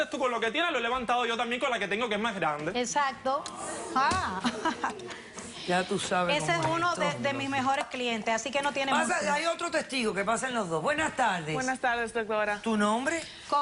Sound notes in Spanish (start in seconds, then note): 0.0 Hablan al unísono; 3.5 Comentarios del público